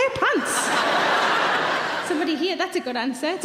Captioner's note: audience laughing